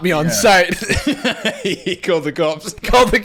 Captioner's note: laughing